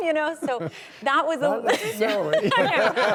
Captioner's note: laughs